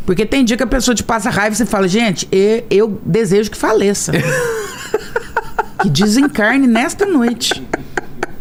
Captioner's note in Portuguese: risadas